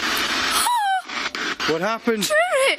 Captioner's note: gasps